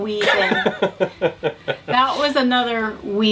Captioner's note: laughs